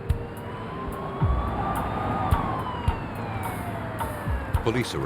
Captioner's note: sirens